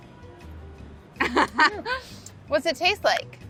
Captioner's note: soothing music; laughs